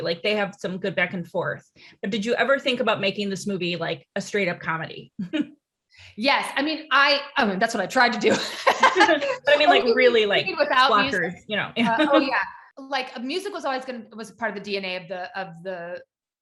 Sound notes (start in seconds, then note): 5.2 chuckles; 8.2 laughs